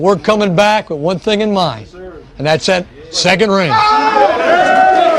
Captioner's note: cheers and applause